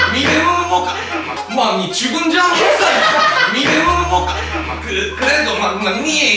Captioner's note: sounding drunk